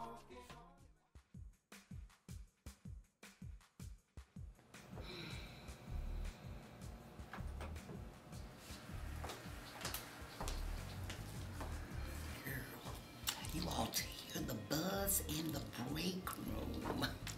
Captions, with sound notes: (Anita sighs) - Girl, you ought to hear the buzz in the break room.